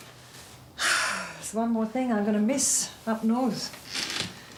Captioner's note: sighs